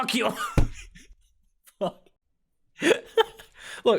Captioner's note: soundsmith does the big laugh